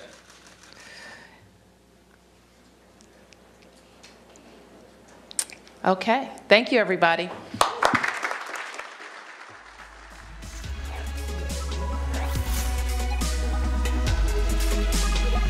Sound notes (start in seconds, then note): 0.2 laughter; 7.5 applause